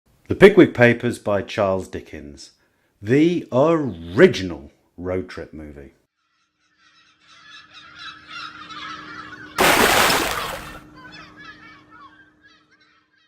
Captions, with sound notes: The Pickwick Papers by Charles Dickens. The ORIGINAL road trip movie! [Gulls Calling] [Big Splash]